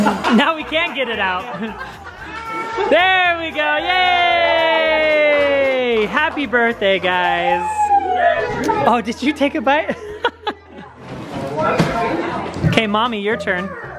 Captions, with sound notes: Now we can't get it out! There we go. Yay! Happy birthday guys. Oh, did you take a bite? (laughs) 'Kay, Mommy, your turn.